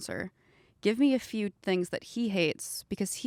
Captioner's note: none